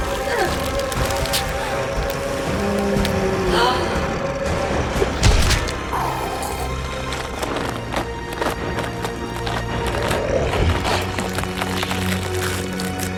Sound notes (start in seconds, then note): 0.2 Jennifer grunting; 7.0 flesh ripping